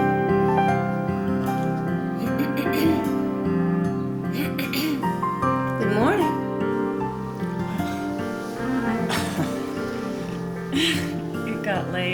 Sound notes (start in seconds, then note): 2.7 clears throat; 9.4 laughing